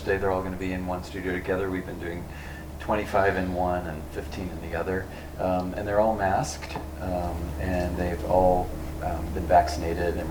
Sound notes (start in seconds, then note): none